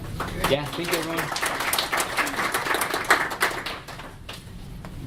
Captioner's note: applause